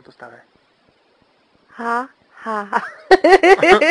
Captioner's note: laughter